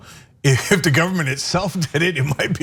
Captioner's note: laugh